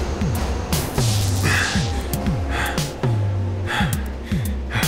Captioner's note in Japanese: ジョニーの荒い息